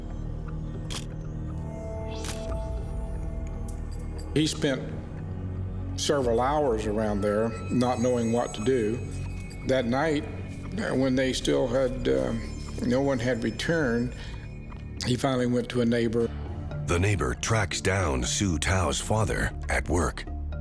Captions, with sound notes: [camera shutter click] HE SPENT SEVERAL HOURS AROUND THERE NOT KNOWING WHAT TO DO. THAT NIGHT WHEN THEY STILL HAD, NO ONE HAD RETURNED, HE FINALLY WENT TO A NEIGHBOUR. THE NEIGHBOUR TRACKS DOWN SU TAO'S FATHER AT WORK.